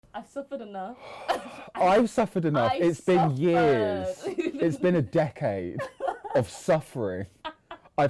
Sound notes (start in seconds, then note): 1.0 sighing; 4.0 laughing